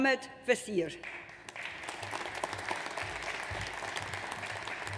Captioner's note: audience applauds